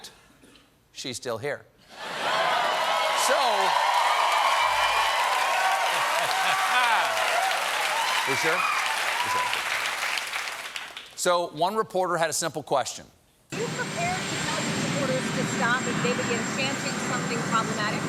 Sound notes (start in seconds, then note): 6.1 applause